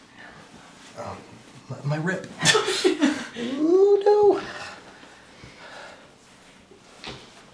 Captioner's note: laughing